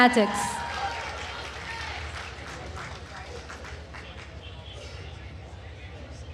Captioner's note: attendees cheering and applauding